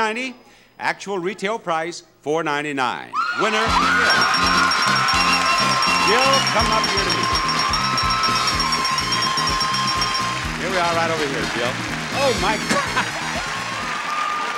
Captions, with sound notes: Actual retail price, 499. Winner, Jill. (bell ringing) (audience applauds) Jill, come up here to me. Here we are right over here, Jill. Oh my god.